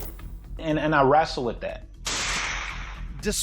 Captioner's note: gun fires